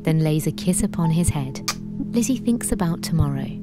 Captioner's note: kissing sound